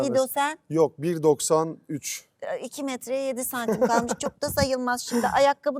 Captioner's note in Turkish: kahkaha